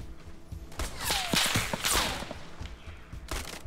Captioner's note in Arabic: طلقات نارية